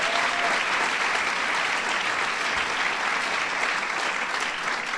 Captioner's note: applause